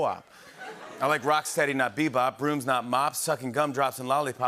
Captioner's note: laughter